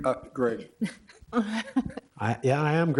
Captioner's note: laughter